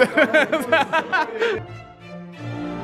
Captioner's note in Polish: śmiech